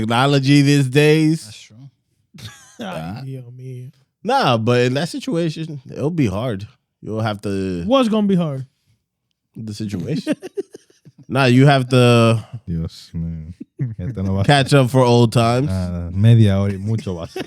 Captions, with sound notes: Technology these days. That's true. (Laughing) Nah, but in that situation, it'll be hard. You'll have to-- What's gonna be hard? The situation. Now you have to catch up for old times.